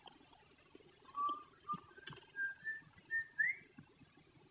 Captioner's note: whistling